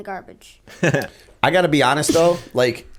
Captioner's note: chuckle